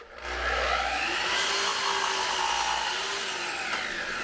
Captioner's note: tool whirs